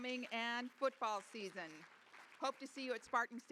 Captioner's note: applause